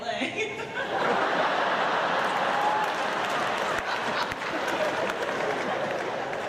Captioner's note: audience laughs